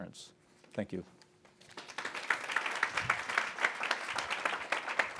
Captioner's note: audience applauding